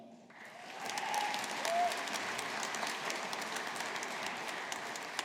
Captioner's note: audience applauding